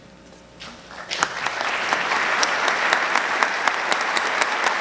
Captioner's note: audience clapping